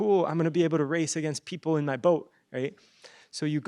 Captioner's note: none